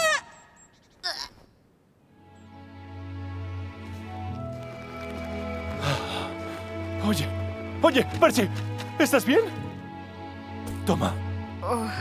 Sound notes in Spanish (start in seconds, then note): 5.7 Jadeando